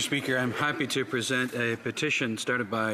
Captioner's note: speaking French